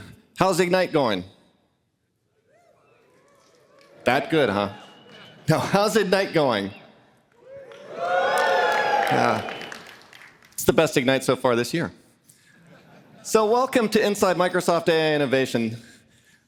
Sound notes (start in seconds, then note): 7.4 audience cheering; 12.4 laughter